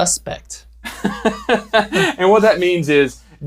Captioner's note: chuckles